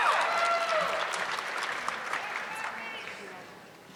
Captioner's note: audience clapping